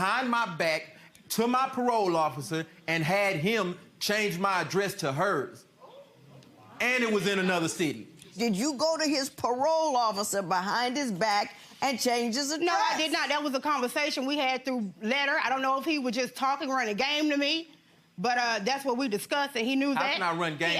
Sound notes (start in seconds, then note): 6.4 audience exclaiming in surprise